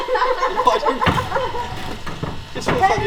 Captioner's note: laughs